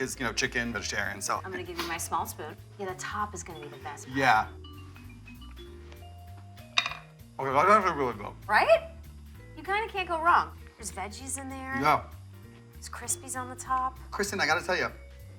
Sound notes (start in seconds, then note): 6.6 wooden spoon clunking